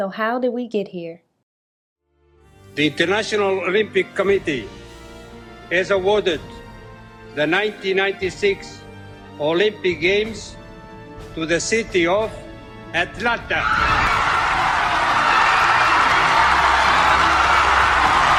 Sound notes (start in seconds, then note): 13.4 cheering